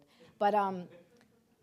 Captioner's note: audience laughing